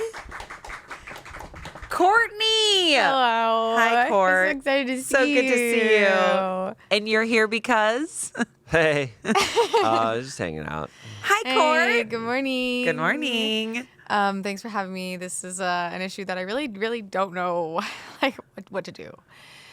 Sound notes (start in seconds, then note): 0.1 crew applauds; 8.8 chuckles; 9.3 laughs